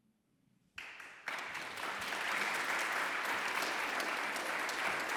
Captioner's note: audience applauding